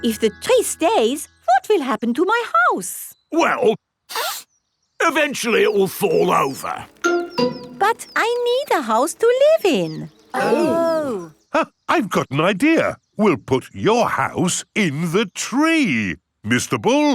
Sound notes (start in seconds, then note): 4.1 sniffs; 10.3 gasps